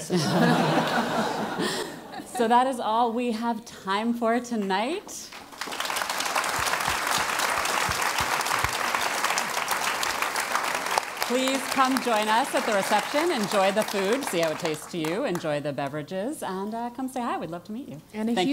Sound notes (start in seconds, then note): 0.1 laugh; 5.3 applause